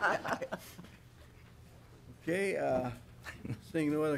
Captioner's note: laughing